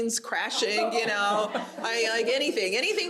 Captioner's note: audience laughs